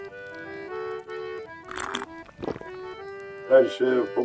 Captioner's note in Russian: прихлебывает чай